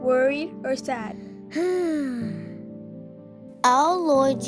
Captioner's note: sigh